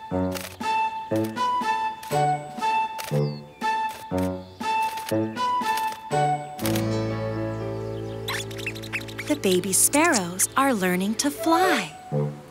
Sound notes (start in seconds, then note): 0.5 flute music; 6.6 guitar strumming; 8.2 mouse noises; 12.3 bouncy piano music